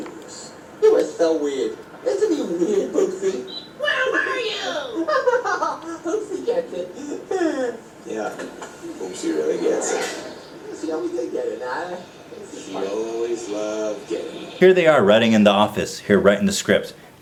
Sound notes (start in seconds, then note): 3.5 bird; 3.8 yells; 6.2 assorted chatter